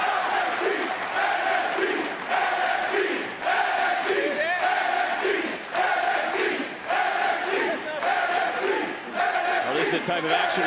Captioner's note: crowd cheers; crowd chanting, "nxt"